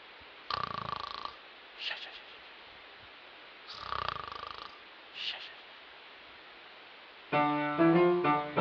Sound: snoring

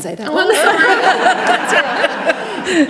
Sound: panellists laughing

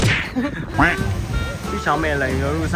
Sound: drooling

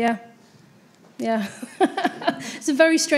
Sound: laughs

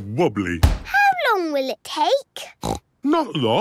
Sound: snorts

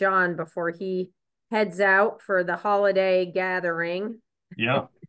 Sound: chuckles

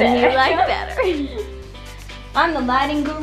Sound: laughing

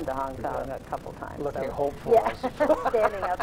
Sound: laughs

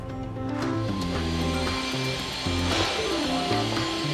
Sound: drills whirring

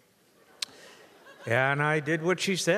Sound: audience laughs

